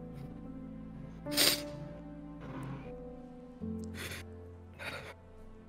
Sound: sobbing

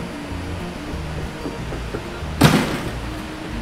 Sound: footsteps thumping; feet thudding

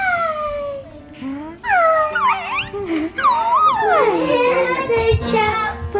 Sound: cooing and laughing

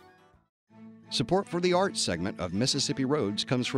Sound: voiceover

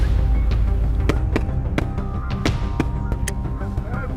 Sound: shots fired

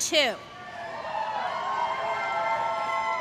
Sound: applause

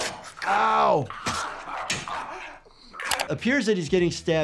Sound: knife pierces

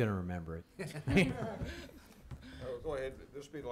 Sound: laughs; some laughing

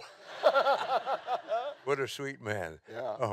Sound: laughing continues

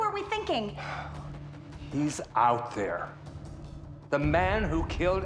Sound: sighs

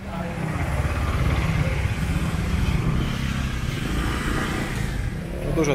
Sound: motorcycles

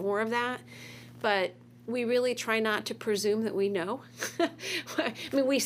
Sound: chuckles

